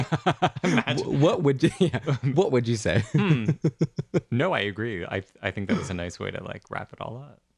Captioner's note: laugh; laugh